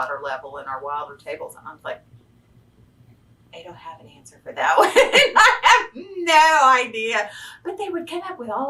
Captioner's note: laughs